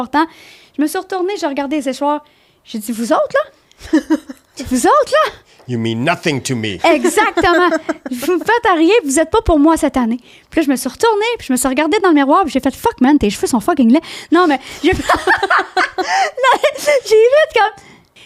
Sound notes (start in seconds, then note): 0.0 in french; 3.8 laughing; 4.5 in french; 7.9 in french; 14.8 laughing; 16.2 in french